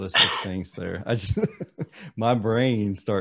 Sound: laughs

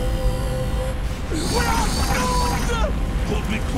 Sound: grunting

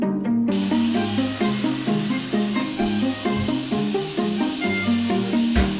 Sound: shower running

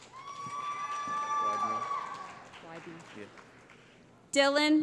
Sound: cheering

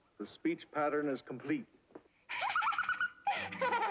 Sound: laughing

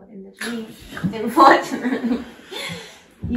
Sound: laughter

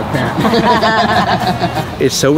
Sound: group laughs

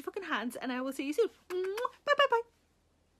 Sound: Sarah smooching

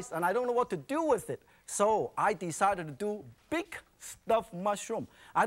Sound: none

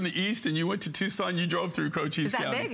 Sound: laughter

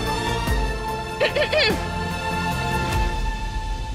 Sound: clears throat

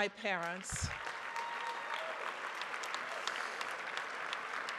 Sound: audience cheers

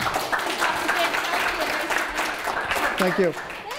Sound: audience applauds

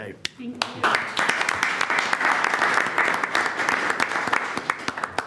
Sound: all applaud

